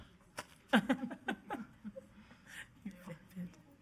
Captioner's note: laughing